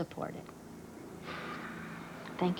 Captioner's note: sigh